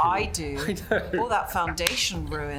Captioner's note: laughs